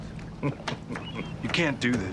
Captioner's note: chuckles